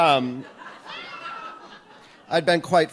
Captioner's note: audience laughs